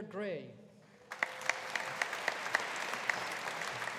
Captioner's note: audience applauding